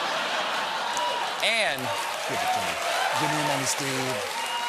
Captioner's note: applause